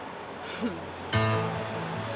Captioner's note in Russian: вздох удовлетворения